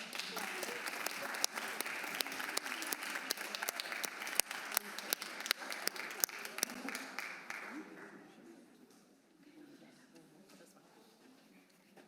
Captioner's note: applause